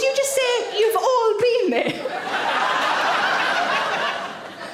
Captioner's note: audience laughing